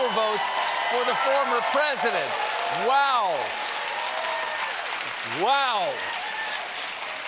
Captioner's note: cheers and applause